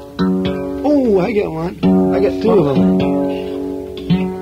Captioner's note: guitar tuning; voiceover; guitar tuning